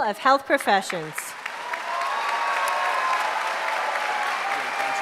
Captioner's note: applause